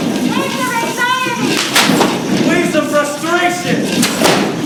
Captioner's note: thunder and clap; thunder and clap